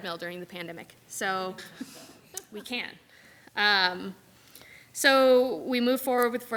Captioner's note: group laughs